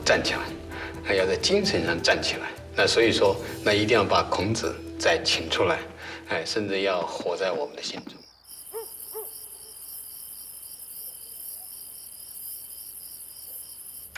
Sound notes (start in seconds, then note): 8.7 perro ladrando; 10.5 ruidos de insectos